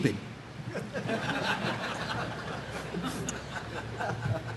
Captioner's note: audience laughing